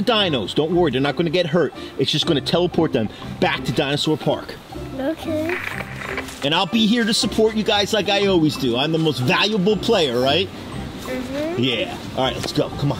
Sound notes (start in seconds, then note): 5.2 static crackles